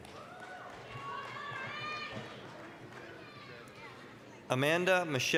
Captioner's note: applause, cheering